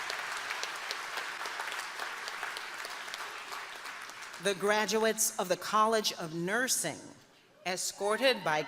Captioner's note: applause